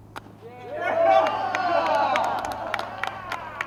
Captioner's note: crowd cheering